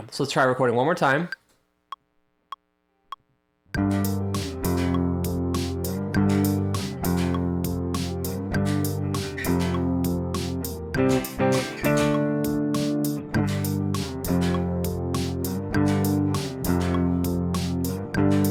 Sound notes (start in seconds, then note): 1.4 beeping; 1.4 upbeat music